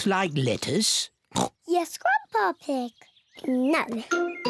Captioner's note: oinks